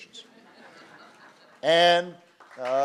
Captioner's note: applause